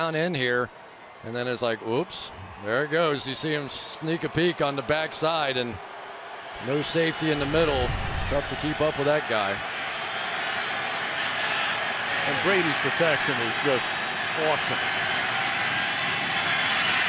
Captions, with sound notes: And no safety in the middle. Tough to keep up with that guy. [crowd cheering] And Brady's protection is just awesome. Welker over the middle to the 23-yard line.